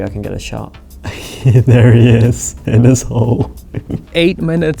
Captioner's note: laughs